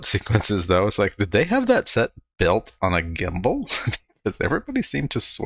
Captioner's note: chuckling